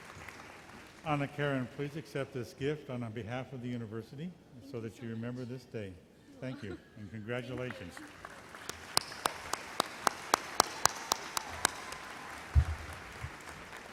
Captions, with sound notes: - Anakaren, please accept this gift, on behalf on the university, so that you remember this day. Thank you, congratulations. (applause)